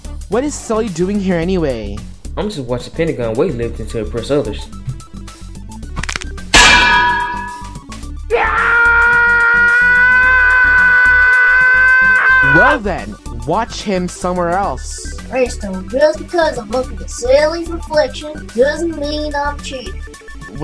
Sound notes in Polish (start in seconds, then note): 5.9 Crack; 8.2 Pięciokąt krzyczy